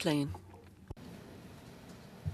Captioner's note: speaking in French